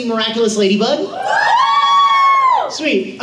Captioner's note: audience cheers